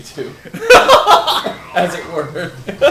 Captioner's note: laughs